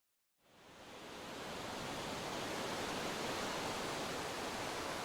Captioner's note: crashing waves